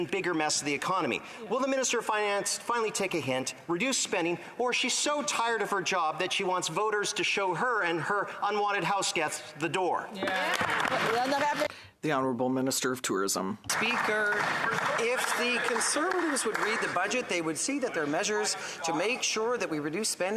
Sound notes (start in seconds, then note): 13.7 applause; 15.2 speaking in French